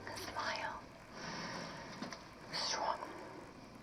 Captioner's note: vivien inhales deeply